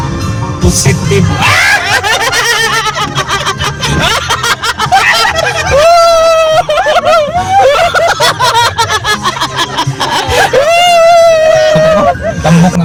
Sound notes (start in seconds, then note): 1.3 laughing